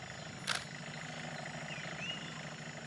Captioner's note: camera shutter clicks